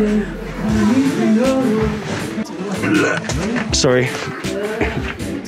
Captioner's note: gags